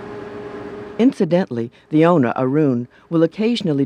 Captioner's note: voiceover